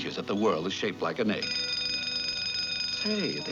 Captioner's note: school bell dinging